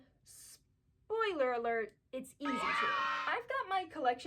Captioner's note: cheering